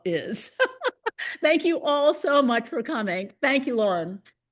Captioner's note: laughs